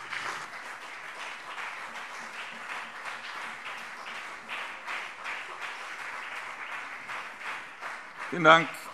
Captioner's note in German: Beifall BÜNDNIS 90/DIE GRÜNEN und CDU